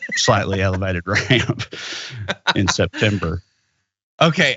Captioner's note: laugh